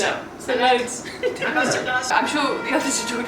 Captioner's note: laughs